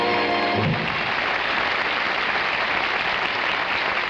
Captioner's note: audience applauding